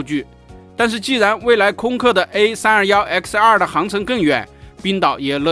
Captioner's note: slip